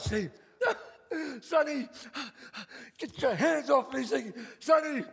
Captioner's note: sobs